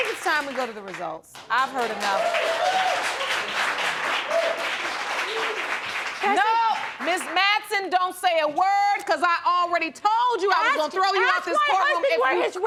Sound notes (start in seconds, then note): 1.8 audience cheering